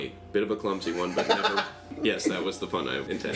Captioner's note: laughs